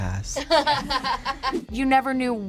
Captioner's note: both laugh